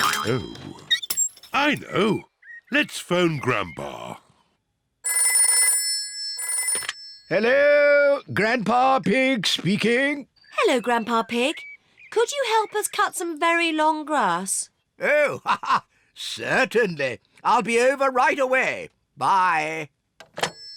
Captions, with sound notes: Oh. I know! Let's phone Grandpa. (PHONE RINGS) Hello. Grandpa Pig speaking. Hello, Grandpa Pig. Could you help us cut some very long grass? Oh, certainly. (LAUGHS) I'll be over right away. Bye.